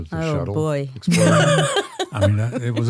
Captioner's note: laughs